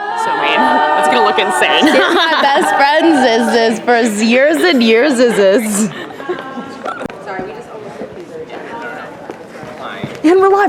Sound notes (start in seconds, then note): 5.8 laughing; 8.2 murmurs